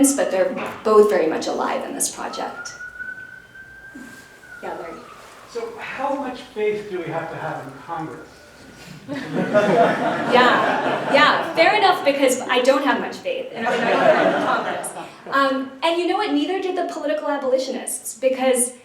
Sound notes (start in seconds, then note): 8.8 laughter; 13.5 laughter